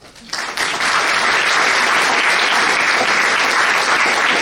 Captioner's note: crowd applauds